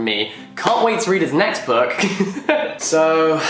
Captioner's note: laughs